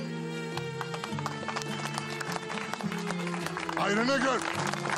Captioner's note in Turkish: Alkışlar